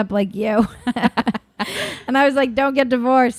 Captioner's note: both laughing